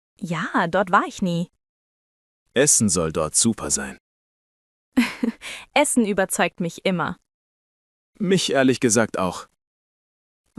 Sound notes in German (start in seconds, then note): 5.0 lacht